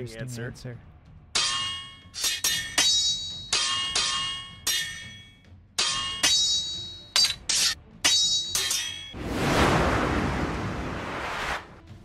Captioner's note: steel clashes numerous times as the wind briefly howls